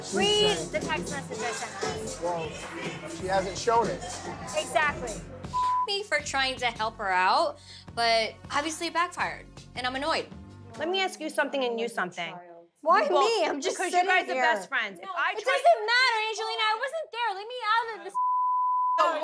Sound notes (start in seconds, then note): 5.5 beep; 15.5 shouting; 18.1 beep